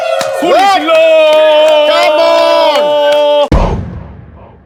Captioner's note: sound of cheering